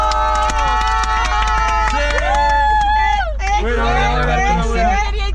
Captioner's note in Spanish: Aplauden